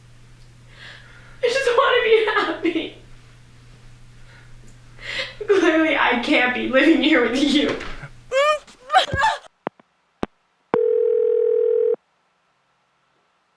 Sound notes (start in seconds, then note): 10.8 phone connecting